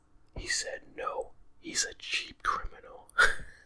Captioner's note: chuckles